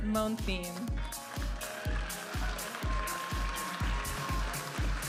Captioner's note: audience applauding and cheering; vibrant music